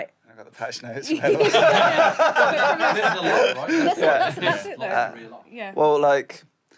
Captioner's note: sounds of muddled agreement